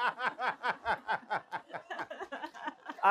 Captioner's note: laughter